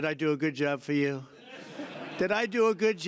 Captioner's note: laughter